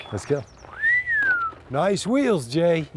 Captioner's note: whistling